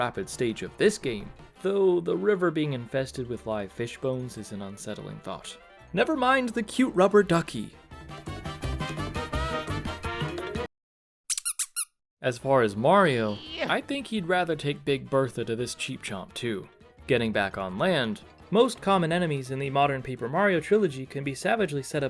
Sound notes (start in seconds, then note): 11.3 silence, squeak